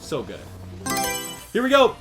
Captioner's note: Mario Selection Sound